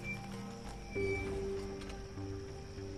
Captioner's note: brakes squeal